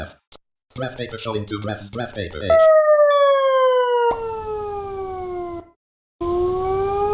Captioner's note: high pitch sound changing to a low pitch sound; low pitch sound changing to a high pitch sound